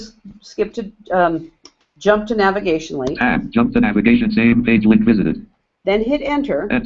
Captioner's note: JAWS speaking